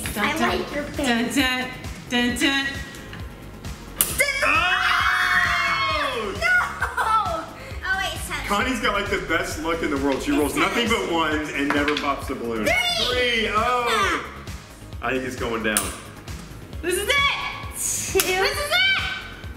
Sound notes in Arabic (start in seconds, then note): 4.2 الصراخ